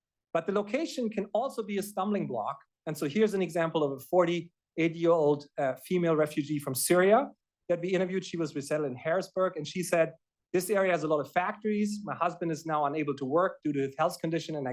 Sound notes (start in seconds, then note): none